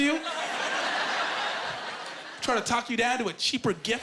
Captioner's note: laughing